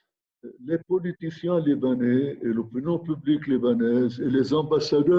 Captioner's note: speaking in foreign language